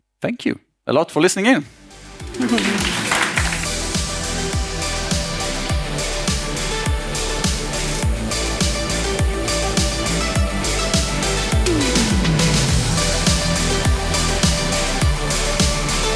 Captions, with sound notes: Thank you a lot for listening in. [outro music] [applause]